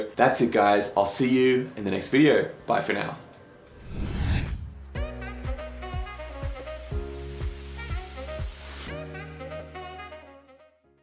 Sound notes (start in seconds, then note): 3.7 air whooshing; 4.3 upbeat music